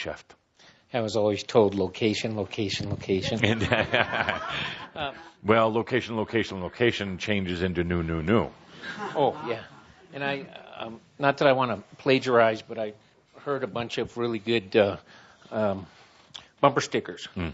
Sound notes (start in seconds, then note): 3.2 laughter